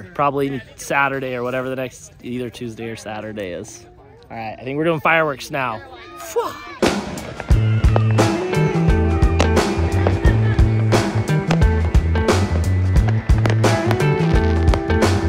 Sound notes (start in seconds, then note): 7.5 fun music; 9.2 fireworks popping and sizzling